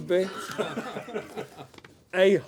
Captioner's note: laughter